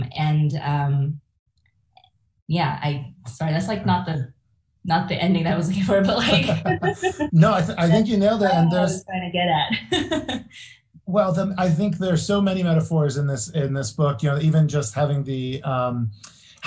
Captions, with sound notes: And yeah, I, sorry, that's like not the ending I was looking for but like (laughs). - No, I think you nailed it. And there's. - I don't know what I was going to get at. - Well, then I think there are so many metaphors in this book, you know, even just having the,